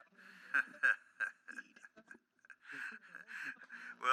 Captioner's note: laughs